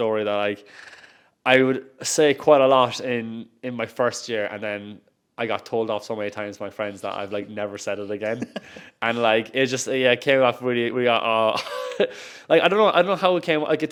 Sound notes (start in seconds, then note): 8.3 host laughs; 11.5 chuckles